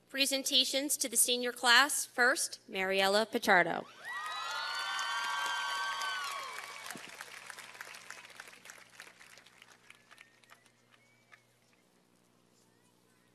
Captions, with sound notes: presentations to the senior class, first, Mariela Pichardo. (cheers and applause)